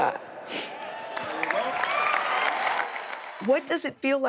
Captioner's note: applause, cheers